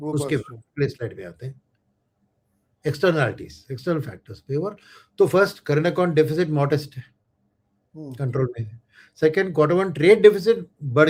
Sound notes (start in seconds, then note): none